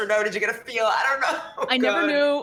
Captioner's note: weeps